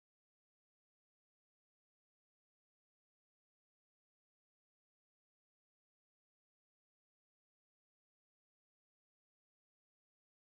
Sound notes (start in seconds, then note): none